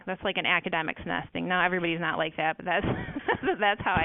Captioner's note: laughs